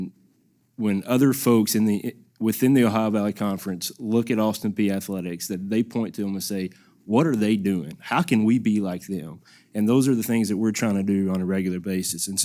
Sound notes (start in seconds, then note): none